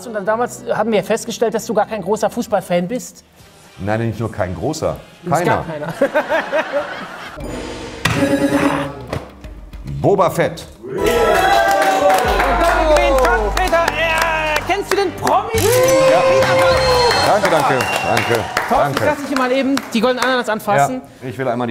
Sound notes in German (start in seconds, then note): 7.4 Gong; 10.9 Jubel; 17.4 Jubel, Applaus